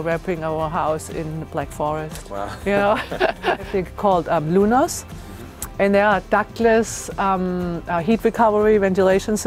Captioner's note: laughs